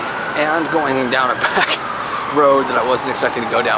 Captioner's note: laughs